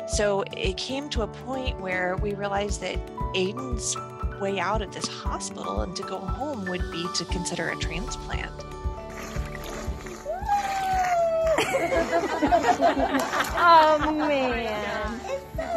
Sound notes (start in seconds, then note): 8.9 water splashing; 9.1 gentle music; 10.6 laughing